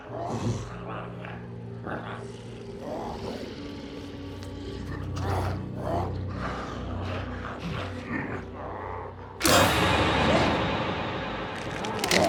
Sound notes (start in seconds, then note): 0.0 Smelly grunts; 2.2 glowzies growling; 9.4 dramatic music